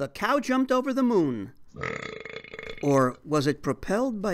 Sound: belch

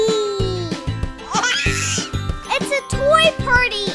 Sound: baby laughing

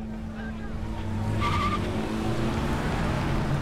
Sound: reporters yelling; tires screech

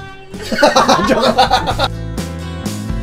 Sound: laughter

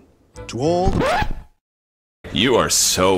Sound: record Scratch

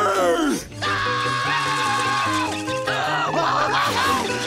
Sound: screaming

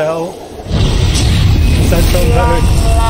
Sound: explosion

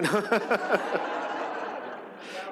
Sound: laughs; audience laughs

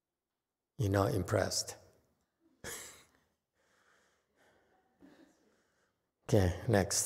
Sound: laughs

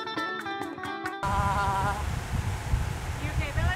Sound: sighing

